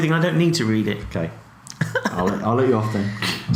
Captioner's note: laughs